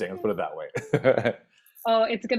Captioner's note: laughs